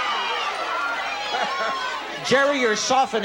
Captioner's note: laughing